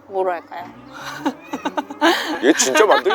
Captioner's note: laughter